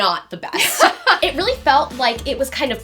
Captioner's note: laughs